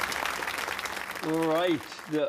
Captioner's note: applause